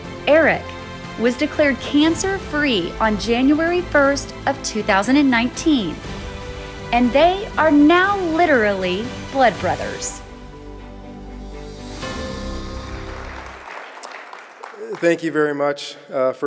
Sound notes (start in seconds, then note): 11.1 bright upbeat music; 12.5 audience clapping